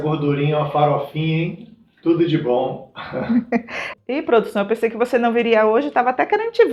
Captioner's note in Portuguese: risadas